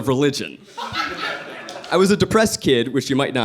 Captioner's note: audience laughing